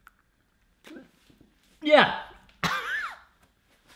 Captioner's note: choking